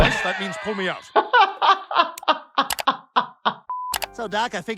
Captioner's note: doctor laughs